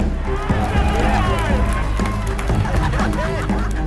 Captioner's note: cheering